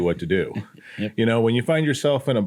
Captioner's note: chuckles